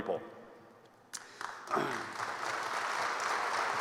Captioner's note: applause